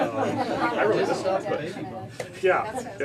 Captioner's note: indistinct chatter